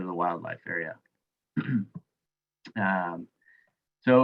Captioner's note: clears throat